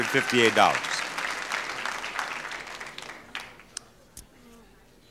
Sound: audience applauding

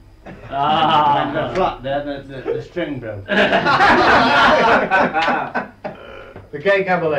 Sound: laughter

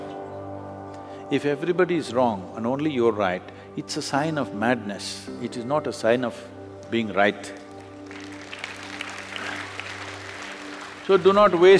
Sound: applause

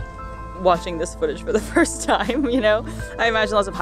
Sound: laughs

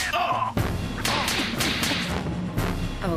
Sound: Smacking Harold

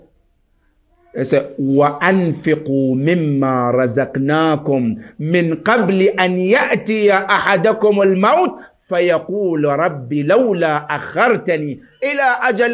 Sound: Arabic

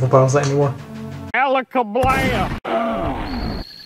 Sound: gunshot

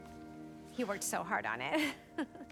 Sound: laugh

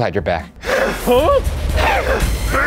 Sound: electric buzzing

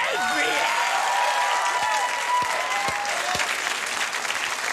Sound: audience applauding

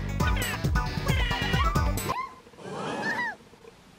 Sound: Peach yelps

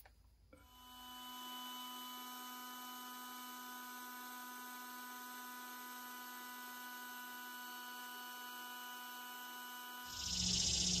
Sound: whirring of air pump

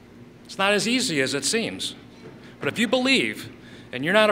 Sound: none

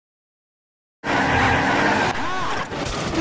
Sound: car sounds

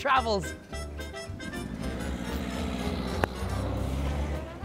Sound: car accelerating

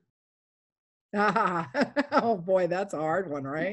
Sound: laughs

